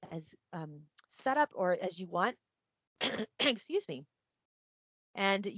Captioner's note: coughs